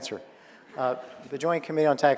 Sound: audience laughing

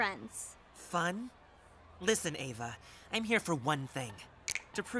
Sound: snaps fingers

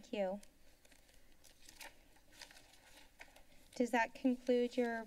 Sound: paper rustling sound

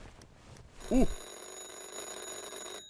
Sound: phone rings

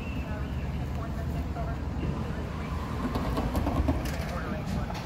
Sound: radio talk

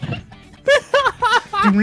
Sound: laughs

